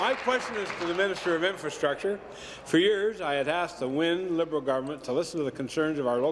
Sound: applause

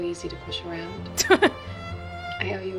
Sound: chuckles

